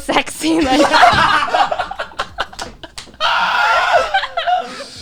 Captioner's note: both laughing